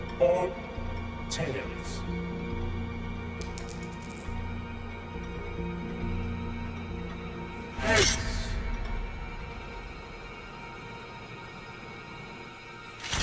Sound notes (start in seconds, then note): 3.4 coin clinking; 10.2 ominous music